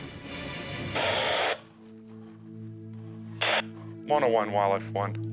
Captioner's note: intense music continues; soft dramatic music; static buzzing